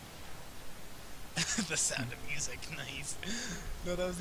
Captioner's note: chuckling